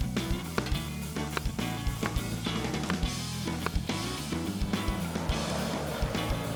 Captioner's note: upbeat music; knife thudding; engine rumbling; upbeat music